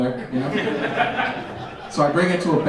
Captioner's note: audience laughing